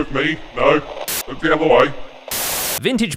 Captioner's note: TV static